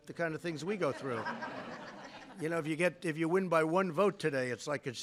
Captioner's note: laughter